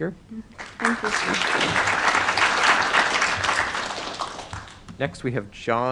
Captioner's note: applause